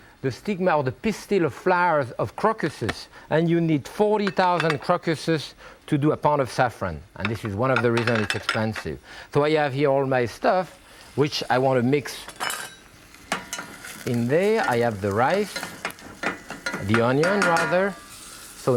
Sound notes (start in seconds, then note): 13.0 spatula clatters; 15.4 spatula scraping; 17.7 spatula banging